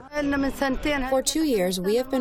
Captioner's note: through translator